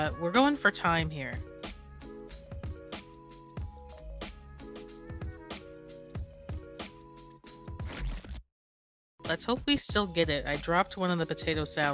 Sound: splat

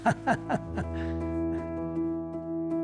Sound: laughter

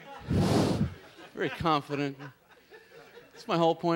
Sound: blowing into microphone

